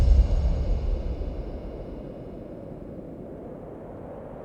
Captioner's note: wind blowing